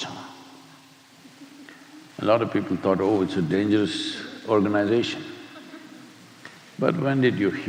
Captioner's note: few laugh